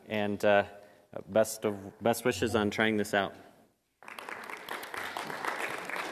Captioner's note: applause